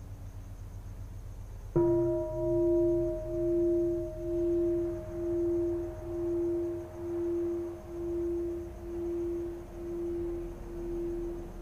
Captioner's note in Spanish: campana